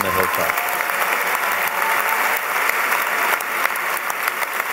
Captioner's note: applause